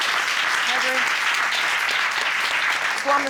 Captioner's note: audience applauding